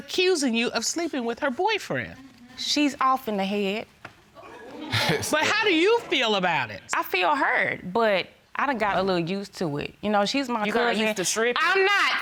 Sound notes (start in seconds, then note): 4.8 osley chuckles